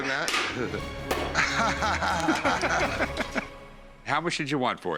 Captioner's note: laughter